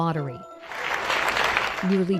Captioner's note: crowd applauding